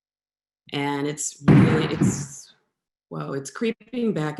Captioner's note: loud bang